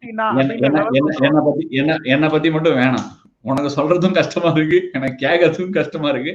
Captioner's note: chuckles